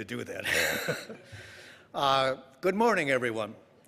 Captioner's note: laughing